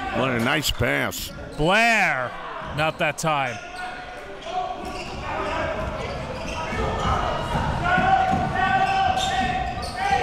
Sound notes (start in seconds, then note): 6.7 crowd cheering